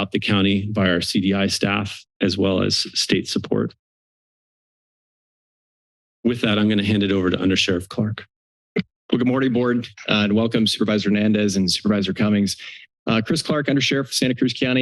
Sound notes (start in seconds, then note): 4.0 silence